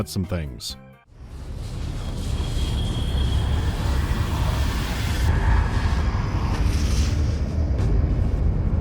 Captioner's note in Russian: гул выхода из гиперпространства